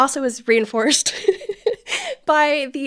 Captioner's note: laughing